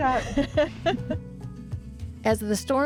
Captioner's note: laughs